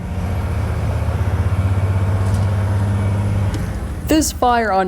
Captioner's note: firetruck rumbles